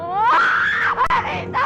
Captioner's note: screaming